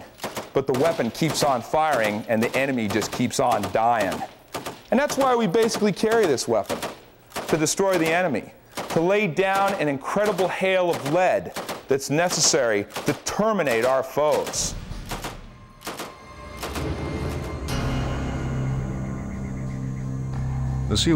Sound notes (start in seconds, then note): 13.6 gun firing; 17.2 ominous music